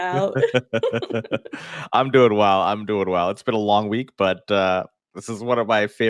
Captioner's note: laughing